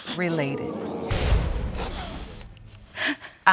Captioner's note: audience exclaiming in disappointment